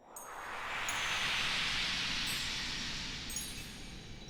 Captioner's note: swoosh and chimes